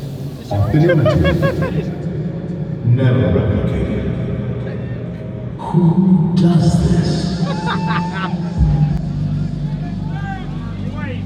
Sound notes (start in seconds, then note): 0.5 laughing; 7.4 laughs